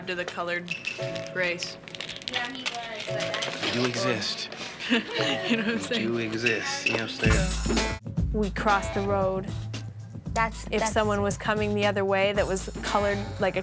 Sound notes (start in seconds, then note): 5.1 laughing